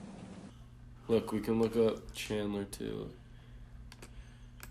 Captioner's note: mouse clicking